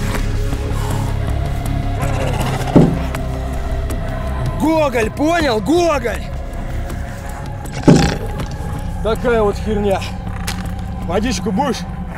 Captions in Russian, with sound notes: *звук удара о стекло* Гоголь! Понял! Гоголь! Такая вот херня! Водичку будешь?